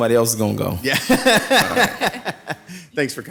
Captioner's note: laughing